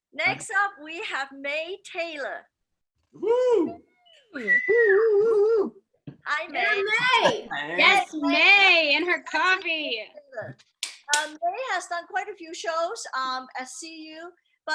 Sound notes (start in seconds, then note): 3.2 attendee whistling; 3.7 attendees cheering